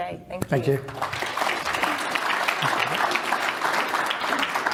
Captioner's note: audience applauds